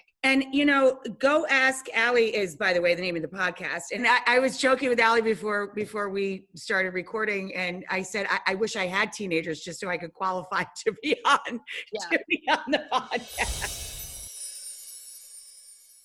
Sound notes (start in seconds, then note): 11.8 laughs; 11.9 upbeat music